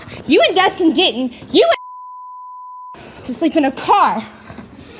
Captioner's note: beep